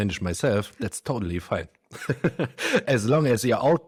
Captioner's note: laughs